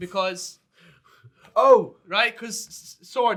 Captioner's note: sighing